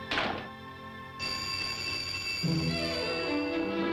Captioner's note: door thuds; telephone ringing